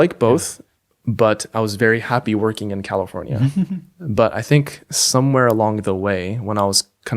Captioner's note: chuckles